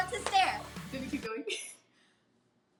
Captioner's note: chuckles